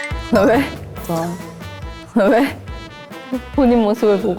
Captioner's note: jeong-min suddenly cracks up